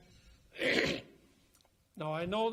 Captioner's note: coughs